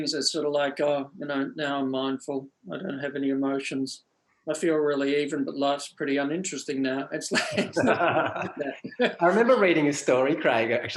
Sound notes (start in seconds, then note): 7.2 both laugh